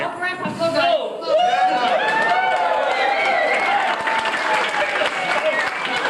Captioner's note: crowd cheers and applause